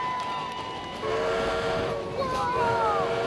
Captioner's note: cheering and applause; train whistle blows